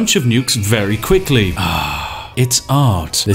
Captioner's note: satisfied sigh